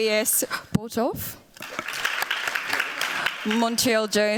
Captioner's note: applause